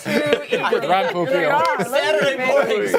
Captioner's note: laughter